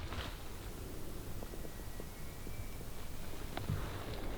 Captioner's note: elk bugling